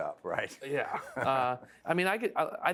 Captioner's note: laugh